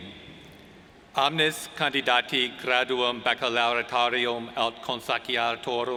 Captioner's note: speaking foreign language